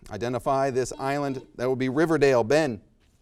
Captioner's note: team buzzes